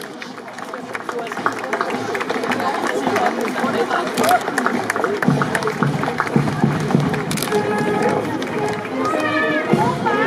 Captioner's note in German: Applaus